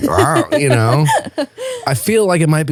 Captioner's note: laughing